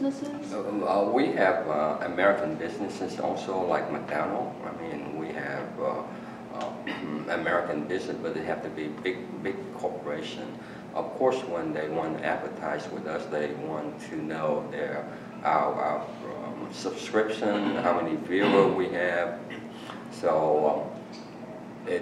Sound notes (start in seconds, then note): 18.3 coughing in background